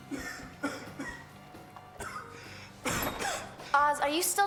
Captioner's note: Ozz coughing